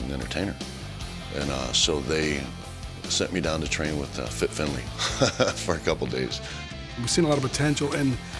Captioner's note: laugh